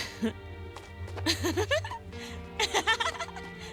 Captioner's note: chuckles; giggles